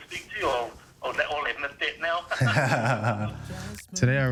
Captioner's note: laughs